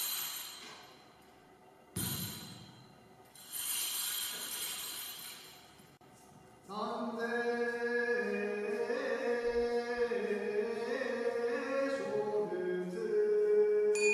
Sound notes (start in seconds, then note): 2.0 sound of priest's staff ringing; 6.7 chanting starts